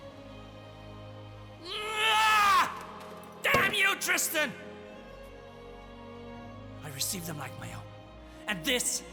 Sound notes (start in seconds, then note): 1.6 screaming